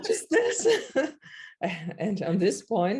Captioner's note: laughs; chuckles